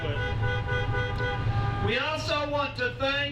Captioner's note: horns honking